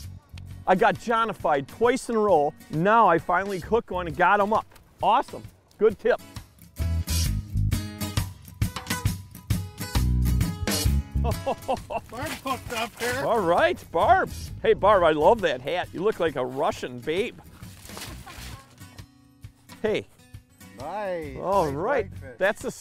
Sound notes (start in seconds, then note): 11.1 laughs; 18.0 laughs